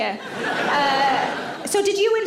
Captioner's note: audience laughs